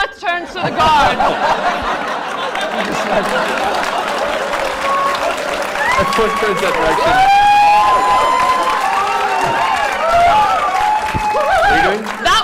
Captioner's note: laughter